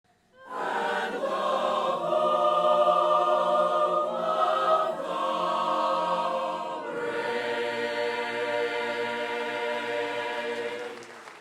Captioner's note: applause